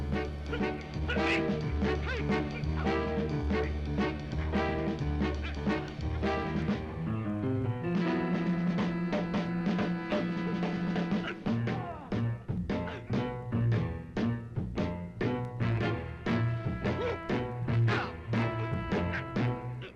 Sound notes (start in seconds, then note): 0.7 dramatic music; 1.0 Mark grunting